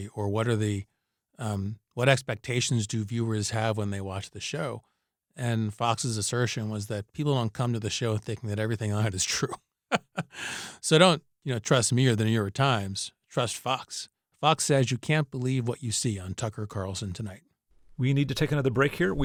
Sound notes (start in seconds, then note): 9.9 laughter